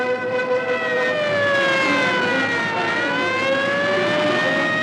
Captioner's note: siren wailing